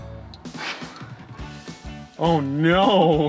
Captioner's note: none